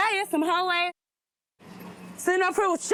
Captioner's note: muted